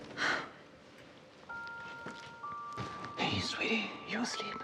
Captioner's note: Maggie exhaling